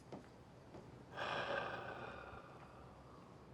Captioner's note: sighing